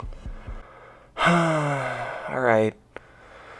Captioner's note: sigh